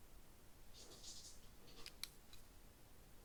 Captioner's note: cat running sound